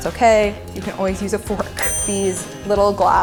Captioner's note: ding